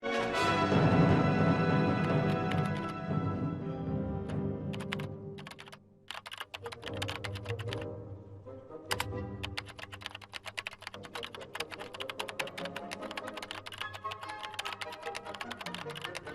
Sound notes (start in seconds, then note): 9.3 keyboard typing; 10.1 dramatic music